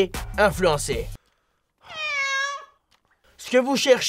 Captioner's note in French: miaou